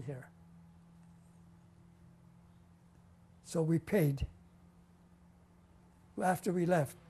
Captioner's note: pauses for 3 seconds